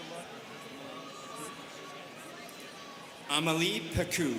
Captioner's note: students chattering